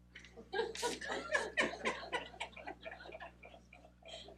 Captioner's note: laughing